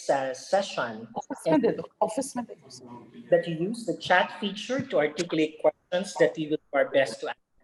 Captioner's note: background chatter